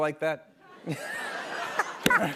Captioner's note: laughter